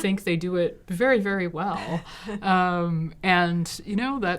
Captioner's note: collective chuckles